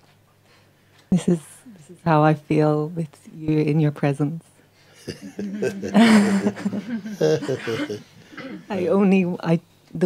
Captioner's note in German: Mooji lacht